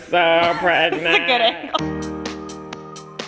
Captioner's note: laughing; upbeat music